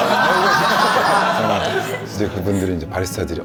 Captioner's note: laughing at the instructor's wittiness